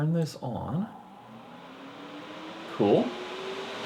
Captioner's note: engine droning; engine roaring